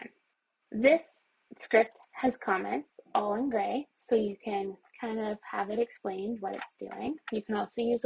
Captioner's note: mouse scrolling